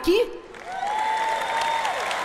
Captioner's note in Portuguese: audiência aplaude